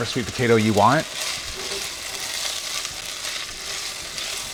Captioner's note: sizzling